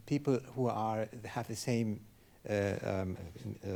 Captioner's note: speaking in foreign language